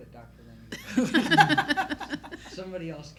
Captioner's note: laughter